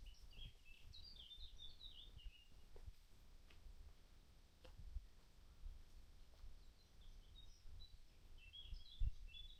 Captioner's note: birds chirping